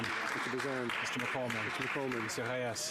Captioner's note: cheering and Applause